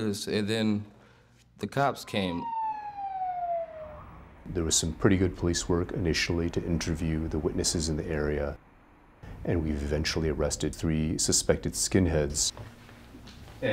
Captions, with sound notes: and then the cops came. (siren) - There was some pretty good police work, initially, to interview the witnesses in the area. And we eventually arrested three suspected skinheads.